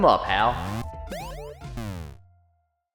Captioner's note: video game sound effects